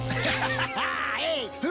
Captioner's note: electricity hums and crackles